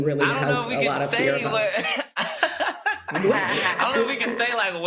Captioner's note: laughs